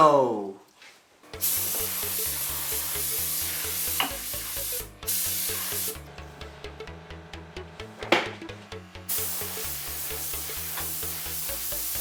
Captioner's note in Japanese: 塗装音